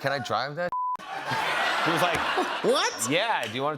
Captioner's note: laughter